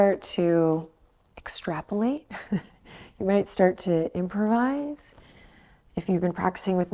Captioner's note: chuckles